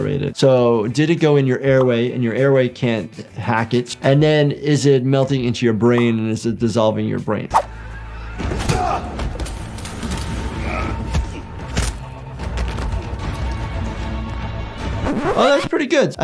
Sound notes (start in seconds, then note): 8.3 fighting and grunting